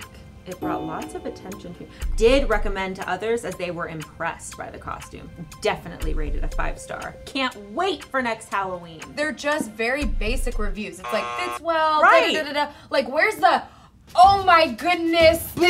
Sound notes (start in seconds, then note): 11.0 buzzer sounds; 11.0 trilling